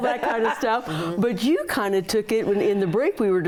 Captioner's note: laughter